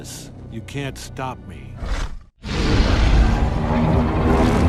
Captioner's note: King Kong & Godzilla growling